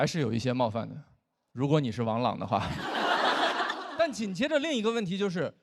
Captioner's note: audience laughs